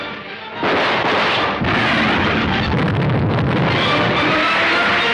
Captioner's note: explosion booms; dramatic music